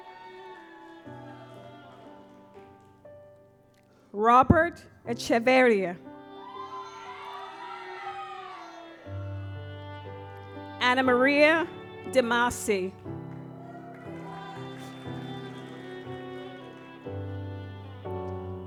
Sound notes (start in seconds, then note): 0.1 gentle music; 6.2 audience applauds; 13.6 audience applauds; 15.8 gentle music